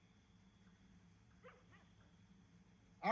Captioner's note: dog barking